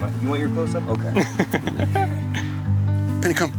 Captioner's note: laughs